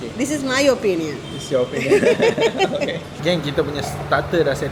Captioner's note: laugh